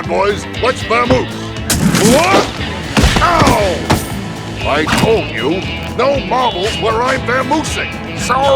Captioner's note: trips on marbles